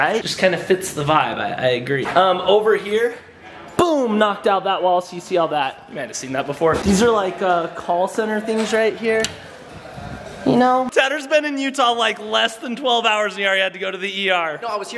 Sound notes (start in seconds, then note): none